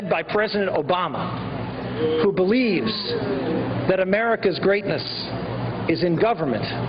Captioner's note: booing